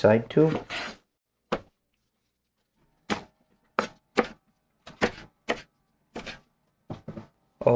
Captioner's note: knife cutting